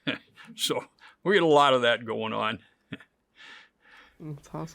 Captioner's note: laughs; laughs